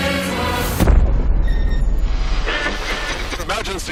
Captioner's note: explosion; radio voice